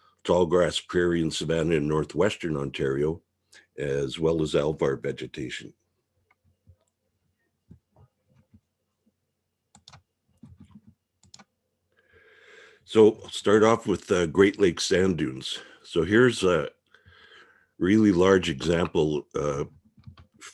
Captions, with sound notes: Tallgrass prairie and savanna in Northwestern Ontario. As well as alvar vegetation. (mouse clicking) So I'll start off with the Great Lake Sand Dunes. So here's a really large example from,